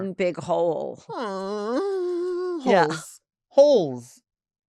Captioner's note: moans